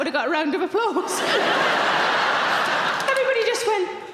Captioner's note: audience laughing